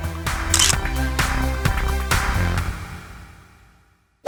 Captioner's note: camera clicking